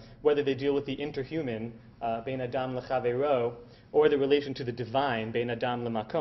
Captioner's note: Hebrew